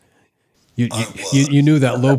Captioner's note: laughs